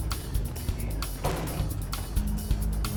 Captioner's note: door slams